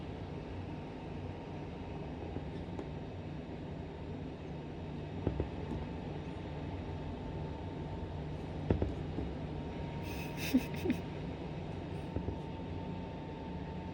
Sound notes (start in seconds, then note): 10.1 laughing